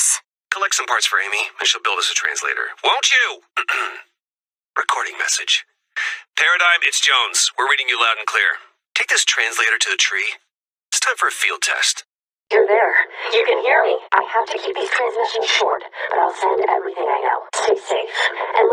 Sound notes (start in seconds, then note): 3.6 clears throat